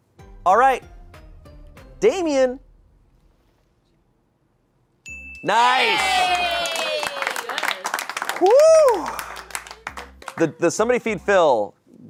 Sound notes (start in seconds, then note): 5.0 bell dings; 6.0 audience applauding